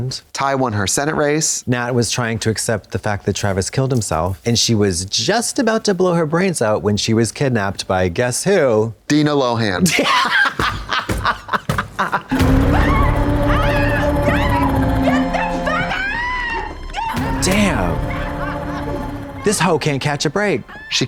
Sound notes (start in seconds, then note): 12.3 Natalie screaming; 12.4 suspenseful music